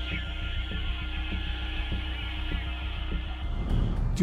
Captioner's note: radio crackles